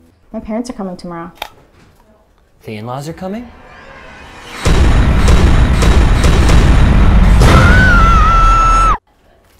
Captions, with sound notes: My parents are coming tomorrow. The in-laws are coming? (screams)